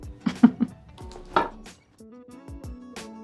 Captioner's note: Priyanka chuckles; upbeat music